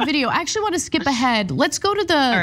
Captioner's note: laugh